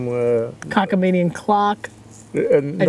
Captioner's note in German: Murmelt